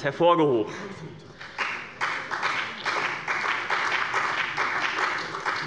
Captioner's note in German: Beifall bei dem BÜNDNIS 90/DIE GRÜNEN und der CDU